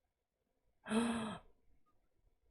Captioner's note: gasps